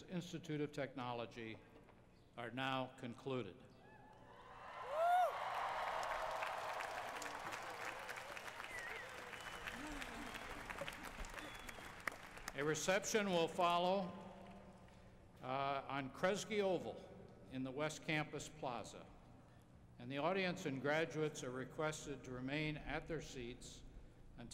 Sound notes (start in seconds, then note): 4.4 cheers and applause